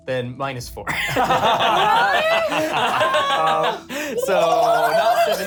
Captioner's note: laughter